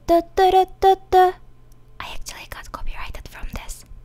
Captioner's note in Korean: 허밍; 속삭임